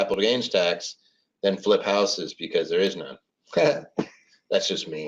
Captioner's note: laughs